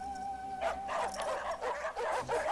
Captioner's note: wolves barking